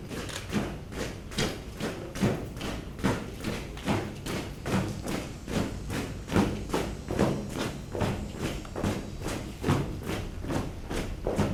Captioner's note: marching footsteps